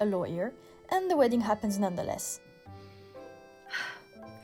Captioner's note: sighs